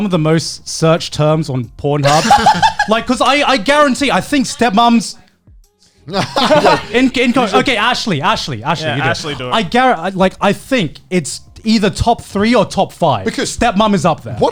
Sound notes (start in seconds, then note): 6.1 all laughing